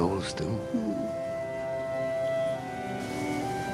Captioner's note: <i> sighs</i>